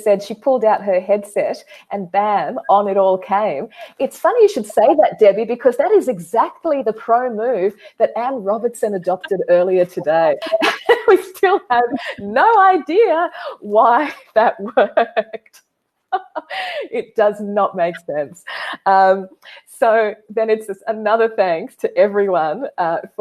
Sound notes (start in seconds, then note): 10.1 laughing; 14.3 laughing